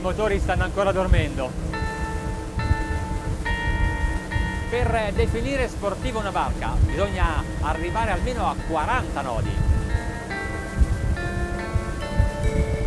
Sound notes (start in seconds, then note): 3.1 dramatic ethereal music; 5.4 speaking foreign language